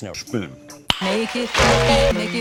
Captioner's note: cloick